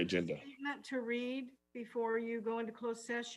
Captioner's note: faintly speaking